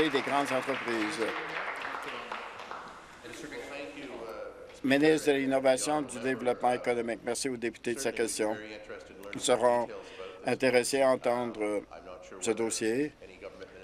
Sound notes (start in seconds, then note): 0.0 applause